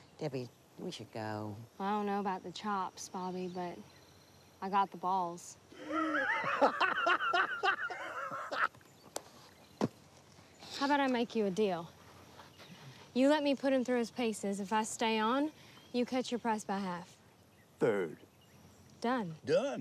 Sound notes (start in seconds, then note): 5.7 Bobby laughing